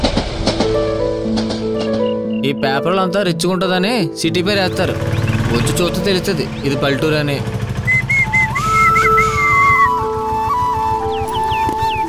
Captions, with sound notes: Name of the place is written on Newspaper for a great look. But, the place looks like a village rather than a city. [WHISTLING]